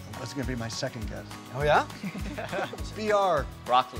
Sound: laughing

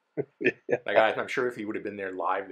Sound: laughs

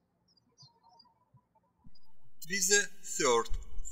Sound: birds chirping

